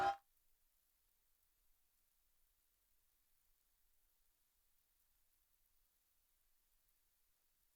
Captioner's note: applause